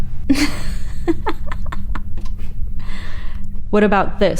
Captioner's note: Hillary laughing